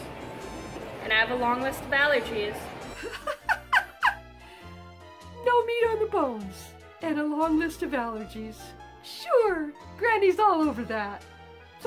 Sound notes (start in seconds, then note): 2.9 giggles